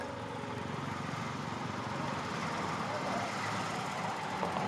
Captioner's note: calm music; truck throttling